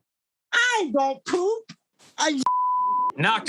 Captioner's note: beeb